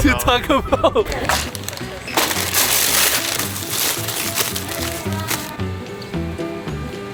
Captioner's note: paper rustles; upbeat music